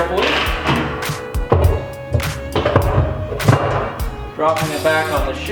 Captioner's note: washing drum rattling; upbeat hip hop music